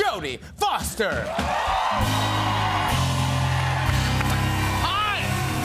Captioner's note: cheers and applause